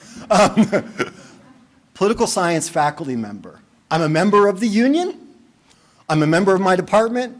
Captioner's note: laughter